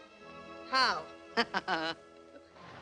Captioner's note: laughs